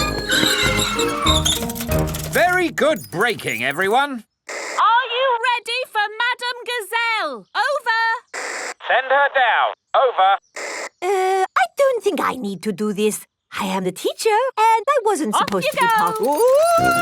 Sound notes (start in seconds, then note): 0.0 tires screech; 8.4 walkie-talkie crackles